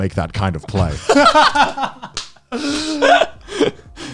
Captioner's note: laughs